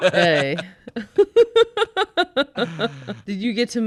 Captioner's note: laughing